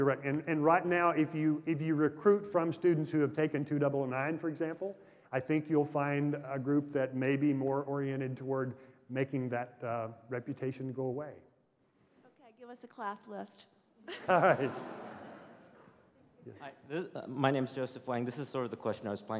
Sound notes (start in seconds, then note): 14.0 laughter